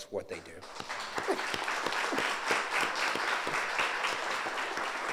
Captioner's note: audience applauds